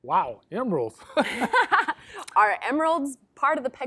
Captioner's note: joyful laughter